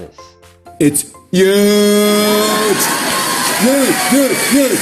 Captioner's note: audience cheering